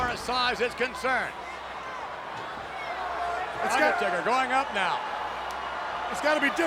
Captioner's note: applause